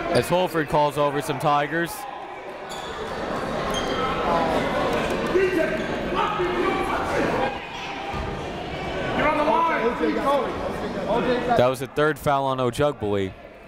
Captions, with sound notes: as Holford calls over some Tigers. (crowd talking) (coaches yelling) That was the third foul on Ojugbele.